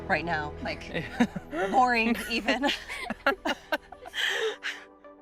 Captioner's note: all laugh